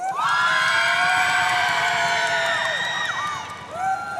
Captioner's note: audience cheering